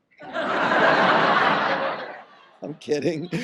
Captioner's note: audience laughs